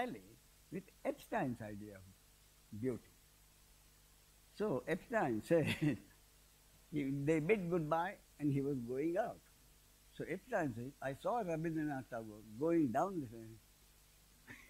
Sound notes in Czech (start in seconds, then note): 13.3 smích